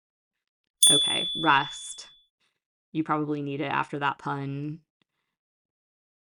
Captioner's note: chime